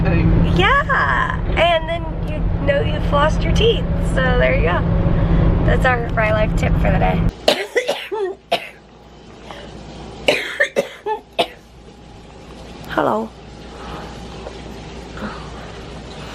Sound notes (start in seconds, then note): 7.4 coughing